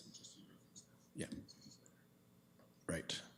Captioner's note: clerk speaks off mic